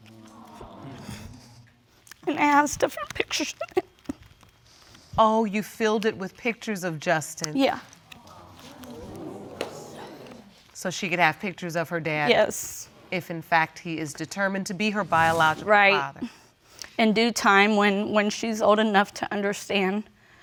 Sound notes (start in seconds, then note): 0.1 audience exclaiming; 4.0 strangled sob; 8.2 audience exclaiming